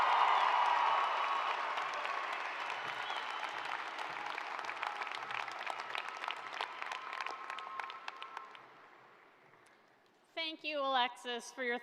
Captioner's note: cheers and applause